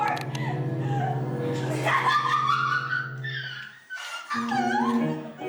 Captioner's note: maniacal laugh